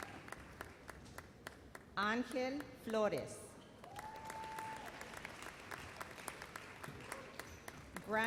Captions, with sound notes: Angel Flores. (audience applauds)